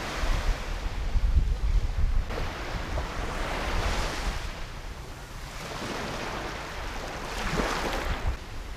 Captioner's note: waves crashing